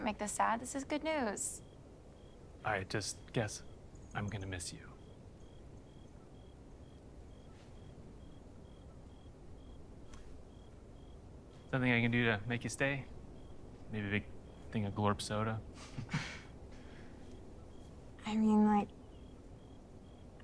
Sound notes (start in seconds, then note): 15.7 both chuckle